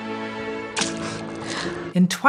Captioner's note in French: Pflouf !